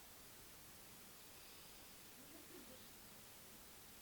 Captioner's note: inhale and exhale